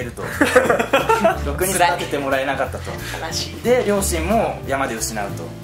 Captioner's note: laughs